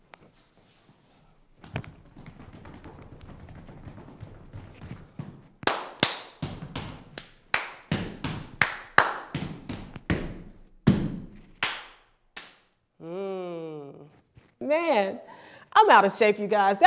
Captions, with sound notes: (feet quickly pounding) (clapping and stomping) Um, man I'm out of shape you guys.